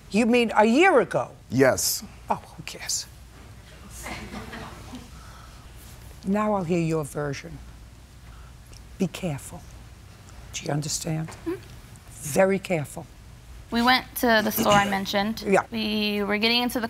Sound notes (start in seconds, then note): 4.0 laughter